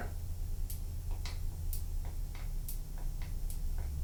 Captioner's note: very faint clicks